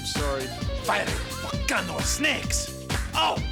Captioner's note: Spanish accent